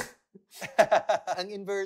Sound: laughs

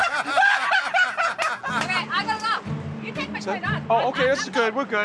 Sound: laughter

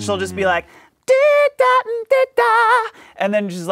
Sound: vocalizes

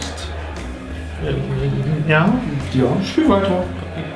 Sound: stammering

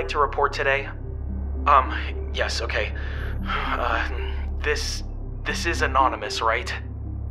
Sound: deep breathing

